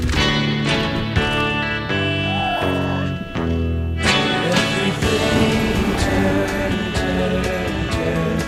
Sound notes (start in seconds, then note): 2.8 mewling growl